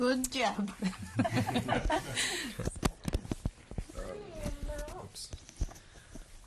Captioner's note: laughter